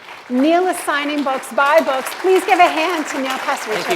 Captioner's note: applause